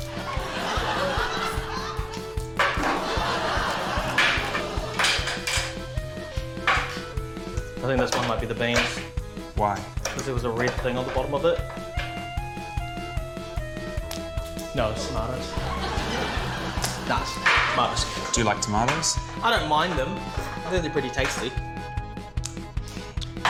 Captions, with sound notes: (LAUGHTER) (LAUGHTER) (CAN OPENER CLATTERS) I think this one might be the beans. - Why? - Because there was a red thing on the bottom of it. No. It's tomatoes. (LAUGHTER) Nah. It's tomatoes. - Do you like tomatoes? - I don't mind them. They're pretty tasty.